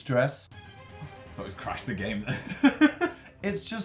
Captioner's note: laughs